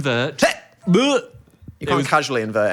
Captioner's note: Dan gagging; Phil gagging